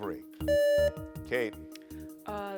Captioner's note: buzzer beeps